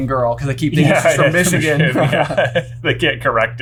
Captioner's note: laughs